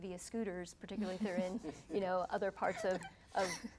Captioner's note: laughing